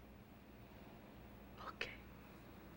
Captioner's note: whispers